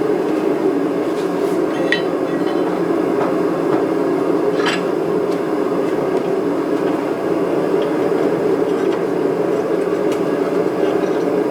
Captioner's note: squeezing steel in vice